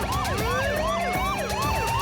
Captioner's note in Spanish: sirenas